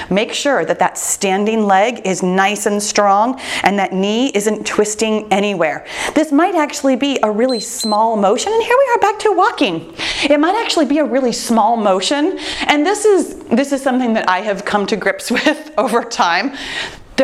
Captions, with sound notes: Make sure that that standing leg is nice and strong, and that knee isn't twisting anywhere. This might actually be a really small motion. (timer beeps) And here we are back to walking. It might actually be a really small motion. And this is... This is something that I have come to grips with over time.